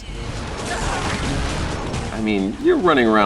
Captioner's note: lasers shooting; shouting